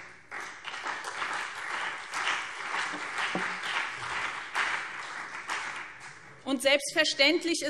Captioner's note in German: Beifall BÜNDNIS 90/DIE GRÜNEN und CDU